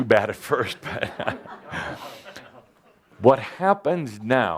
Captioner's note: Adamus chuckles